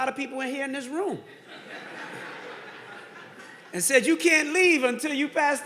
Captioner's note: audience laughing